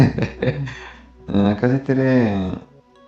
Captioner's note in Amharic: ሳቅ